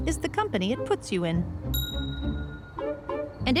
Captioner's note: ding!